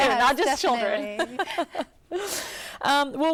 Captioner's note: laughter